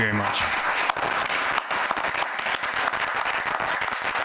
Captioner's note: audience applauds